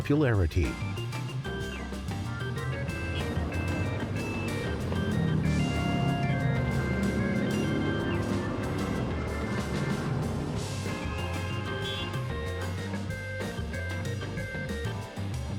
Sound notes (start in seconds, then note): 0.2 upbeat jazz music; 9.6 cars hooting